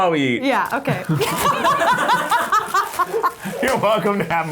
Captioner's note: laughing